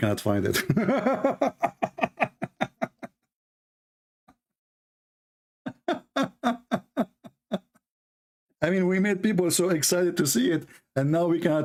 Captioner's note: Ketawa